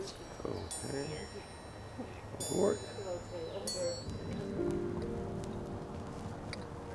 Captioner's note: indistinct chatter over wind chimes